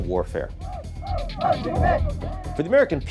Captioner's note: protestors shouting